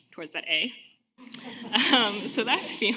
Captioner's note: audience laughing